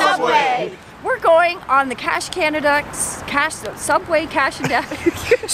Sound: laughter

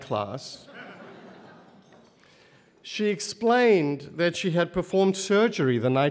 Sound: laugh

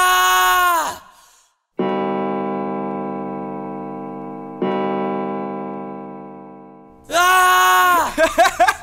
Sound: two clock chimes; yells, laughter

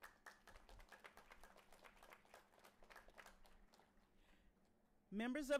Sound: audience cheering and applauding

